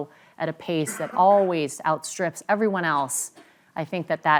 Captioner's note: cough